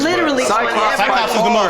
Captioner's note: overlapping chatter